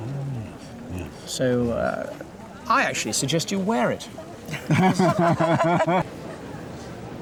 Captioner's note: laughter